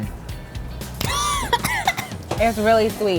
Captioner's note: coughing